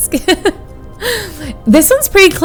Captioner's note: laughs